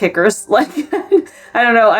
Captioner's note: laughs